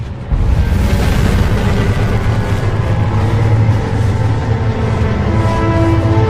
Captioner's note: dramatic music continues; spaceship roaring